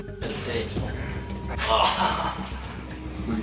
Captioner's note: groans, laughs